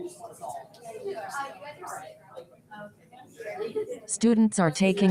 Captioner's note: people chatter indistinctly